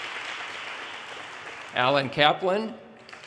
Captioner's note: audience cheers and applause